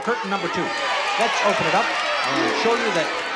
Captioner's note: shouting